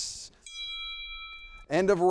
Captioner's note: bell rings